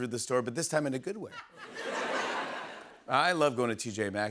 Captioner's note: laughter